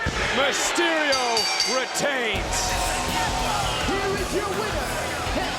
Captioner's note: bell dings